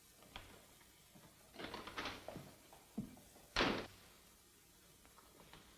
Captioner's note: door opens, closes